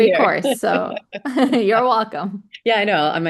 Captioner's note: laughing